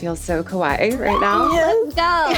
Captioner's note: all cheering